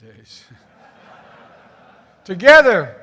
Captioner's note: laughter